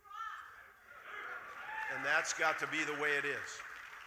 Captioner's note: audience cheering